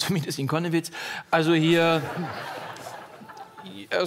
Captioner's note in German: Lachen